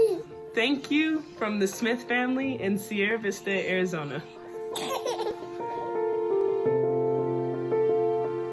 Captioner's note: baby giggles